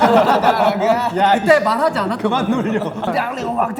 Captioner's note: crying